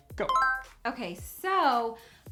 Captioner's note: electronic chime